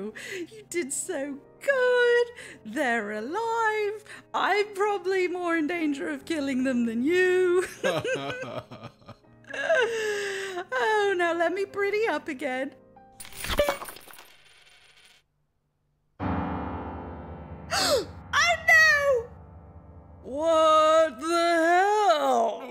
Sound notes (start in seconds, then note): 7.6 Rey and Ben laugh; 17.7 gasp